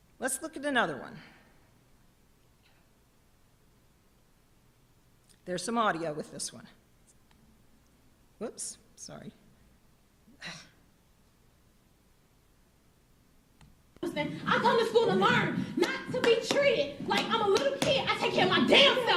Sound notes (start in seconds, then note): 7.7 video noise